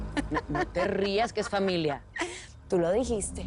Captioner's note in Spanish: Rutila ríe